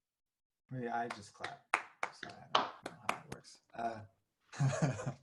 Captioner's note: clapping